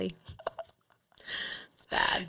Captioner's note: chuckling